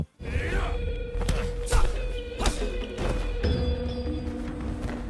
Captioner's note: characters grunting